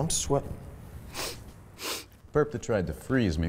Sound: sniffs

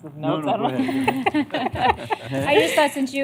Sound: laughter

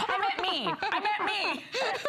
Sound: laughter

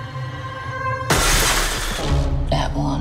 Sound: dramatic music; crash

